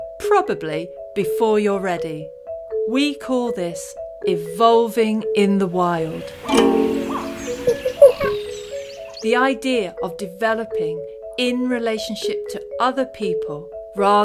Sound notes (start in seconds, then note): 5.7 animals chattering; 5.9 guitar strumming